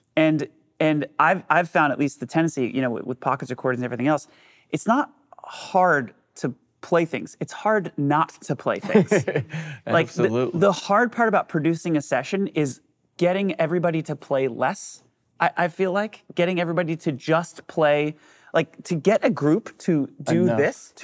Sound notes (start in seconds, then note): 8.8 laughs